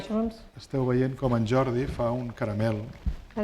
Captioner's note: speaking spanish